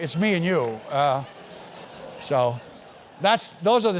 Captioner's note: laugh